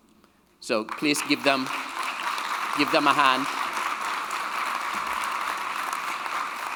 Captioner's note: audience applauding